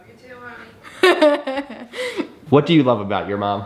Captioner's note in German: lacht